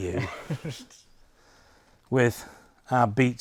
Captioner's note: chuckles